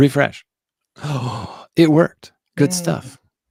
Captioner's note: gasps